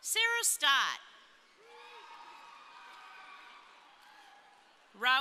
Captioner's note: crowd cheering